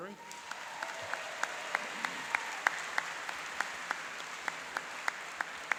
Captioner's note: applauding and cheering